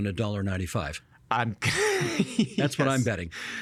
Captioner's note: laughing